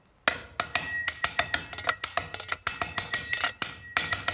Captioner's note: knife clattering